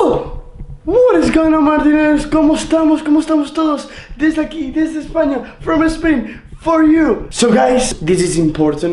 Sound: Spanish

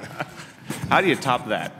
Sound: laughter

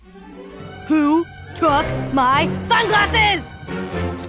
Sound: yelling

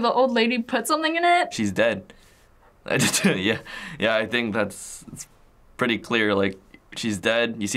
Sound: chuckles

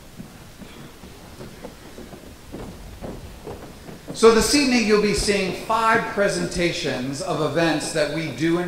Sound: audience clapping

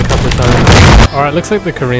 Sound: boom

